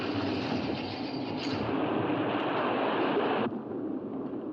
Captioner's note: portcullis rattles; loud thunder; waves crash